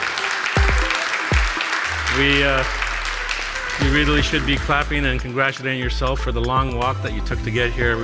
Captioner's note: applause